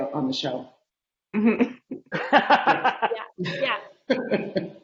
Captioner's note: laughing